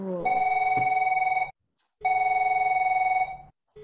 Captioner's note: phone rings